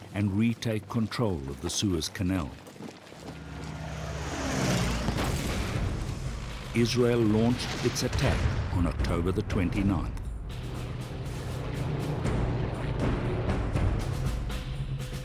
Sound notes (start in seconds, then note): 3.1 warplane roaring; 4.8 exploding; 10.5 planes roaring; 10.9 suspenseful music